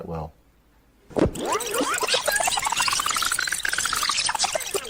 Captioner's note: tape squealing